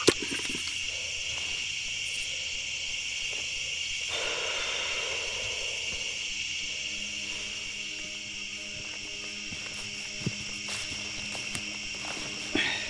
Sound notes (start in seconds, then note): 4.2 Allan sighs; 9.1 soft music